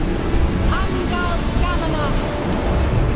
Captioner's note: shouts incantation